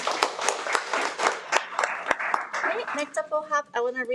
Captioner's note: audience applauds